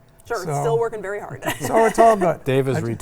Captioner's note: laughs